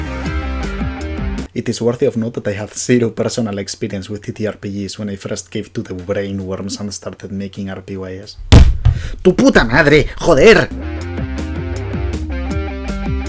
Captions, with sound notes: It is worthy of note that I had 0 personal experience with TTRPGs when I first gave to the brain worms — — and started making RPyS. [LOUD THUD] [In spanish] SON OF A BITCH! FUCK!